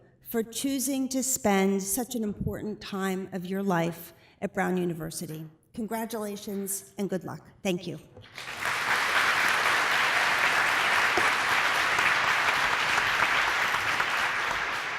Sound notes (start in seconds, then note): 8.2 applause